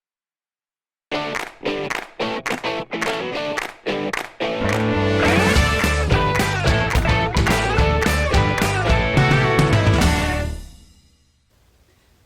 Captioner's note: claps